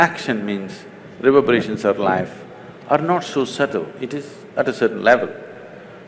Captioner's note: none